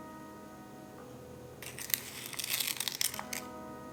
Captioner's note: sound of spoon scrapping gelatin packet